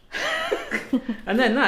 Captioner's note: laughing